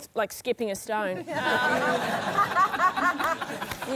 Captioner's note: laughter